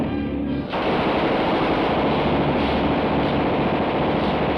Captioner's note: gunfire rattles